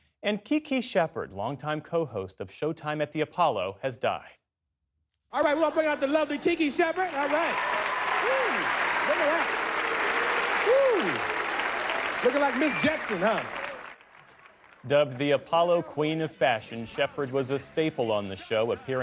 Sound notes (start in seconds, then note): 9.1 cheering